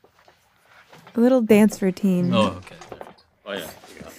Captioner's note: laughs